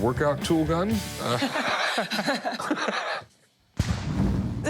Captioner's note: both laugh